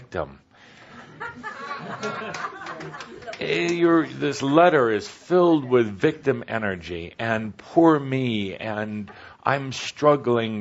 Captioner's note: some laughter